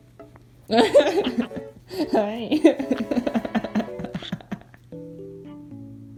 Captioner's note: laughing